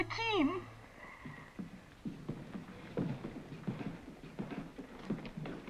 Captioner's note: footsteps approach